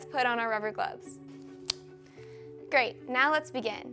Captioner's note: glove snaps